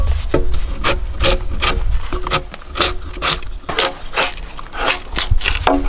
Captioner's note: drawknife scraping